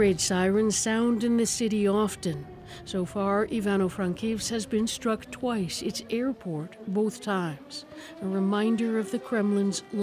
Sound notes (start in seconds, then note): 1.3 sirens